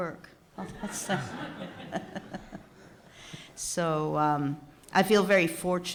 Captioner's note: laughing